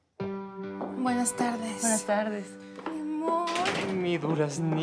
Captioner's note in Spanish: Ruido al abrir